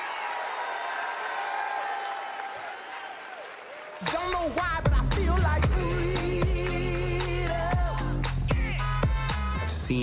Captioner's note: cheers and applause